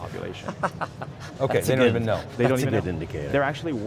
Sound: laughs

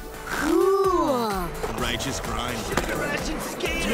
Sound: chatting

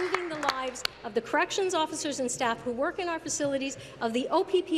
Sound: applause

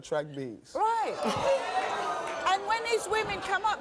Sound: audience laughing

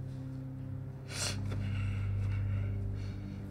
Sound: he sniffs, breathes shakily

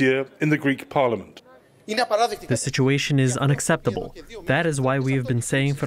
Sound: through translator

